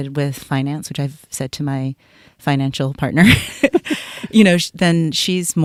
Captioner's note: laughs